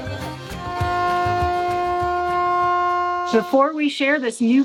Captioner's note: horn honks